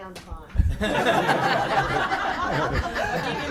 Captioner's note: laughing